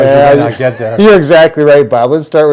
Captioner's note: laughs